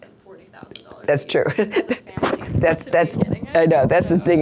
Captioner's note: voiceover; voiceover